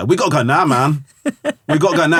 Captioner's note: laughing